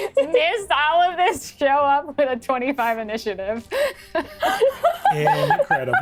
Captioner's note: laughs